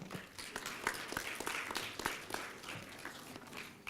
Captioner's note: applause